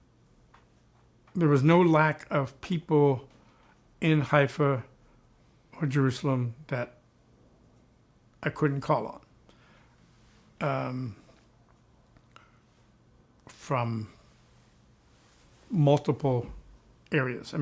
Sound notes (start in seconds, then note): none